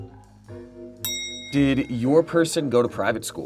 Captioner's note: bell clicking sound